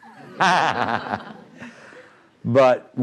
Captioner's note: laughing